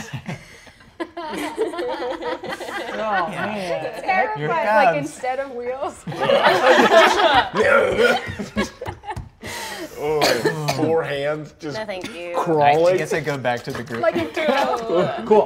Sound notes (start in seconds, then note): 0.0 players laughing; 6.0 players laughing; 6.2 growls